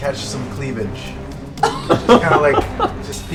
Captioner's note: laughter